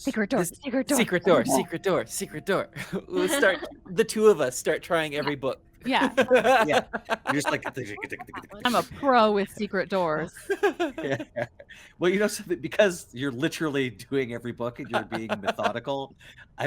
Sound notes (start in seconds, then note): 2.8 Calla laughs; 2.8 Cornette chuckles; 5.9 Cornette laughs; 10.6 Cornette laughs; 14.6 Cornette laughs